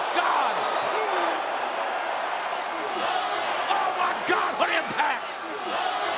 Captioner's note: applause